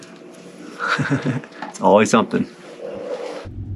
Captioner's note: laughs